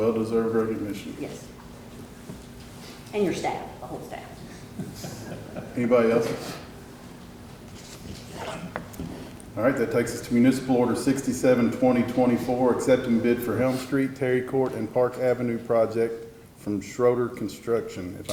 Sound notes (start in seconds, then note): 4.8 people laugh